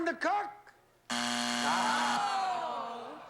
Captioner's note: buzzer